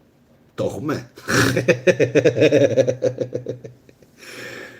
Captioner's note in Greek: γέλια